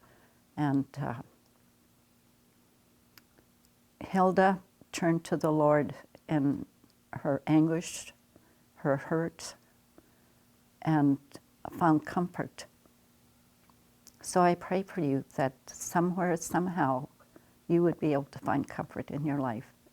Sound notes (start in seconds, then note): none